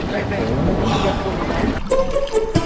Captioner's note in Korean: 감탄